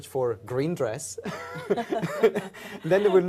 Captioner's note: all laugh